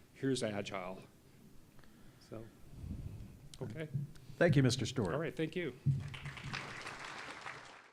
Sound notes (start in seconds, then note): 6.0 applause